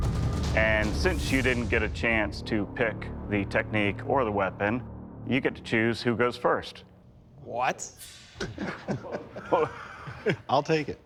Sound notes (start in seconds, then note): 8.4 laughter